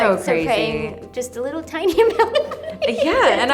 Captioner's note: laughs